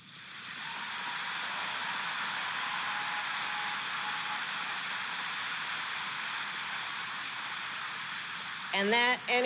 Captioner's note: applause